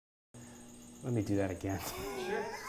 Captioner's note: laugh